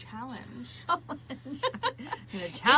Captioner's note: both laughing; laughs